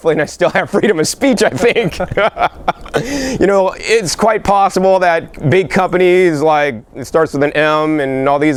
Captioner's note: laughing